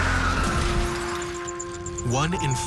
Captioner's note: car crashing; tires screeching